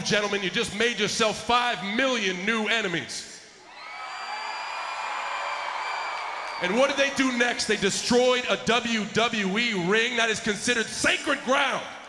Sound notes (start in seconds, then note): 3.9 applause